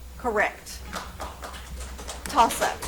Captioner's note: audience applauds